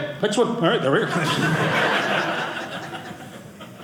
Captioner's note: audience laughing